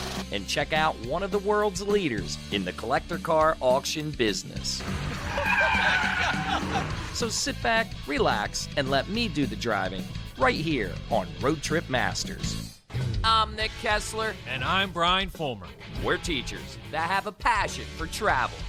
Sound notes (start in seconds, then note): 4.8 tires squealing; 5.4 laughter